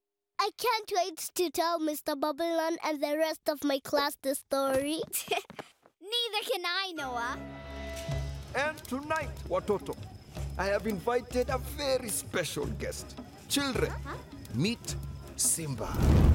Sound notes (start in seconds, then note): 5.2 chuckles